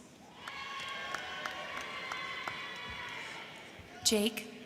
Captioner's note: crowd cheering; crowd clapping